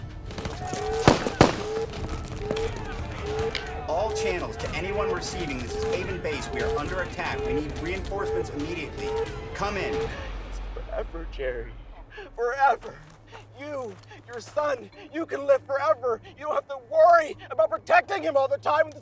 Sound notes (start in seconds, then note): 0.3 gunfire pops; 1.0 alarm blaring